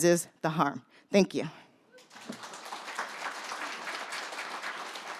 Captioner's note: audience applauds